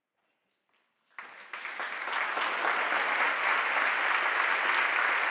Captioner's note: audience applauding